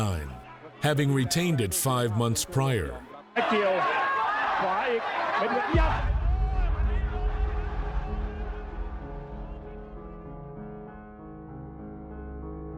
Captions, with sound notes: having retained it five months prior. (announcer speaking in foreign language) (soft piano music)